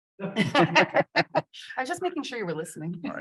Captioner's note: panelists chuckle